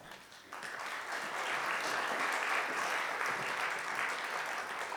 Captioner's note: audience applauding